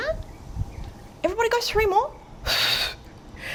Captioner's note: exhales